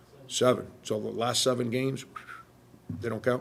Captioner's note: Frank whistles